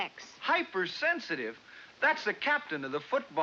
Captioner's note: none